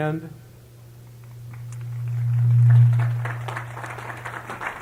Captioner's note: applause